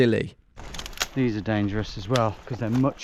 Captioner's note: twigs snapping